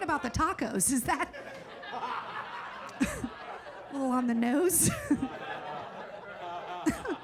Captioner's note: audience laughing